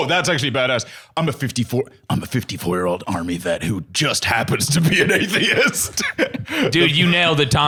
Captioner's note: laughs